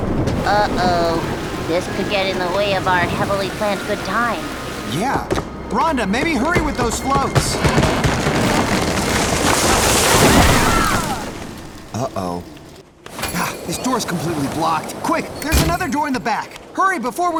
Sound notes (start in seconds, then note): 7.4 wind howls, creaking; 9.8 crash